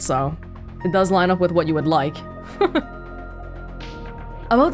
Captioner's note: chuckles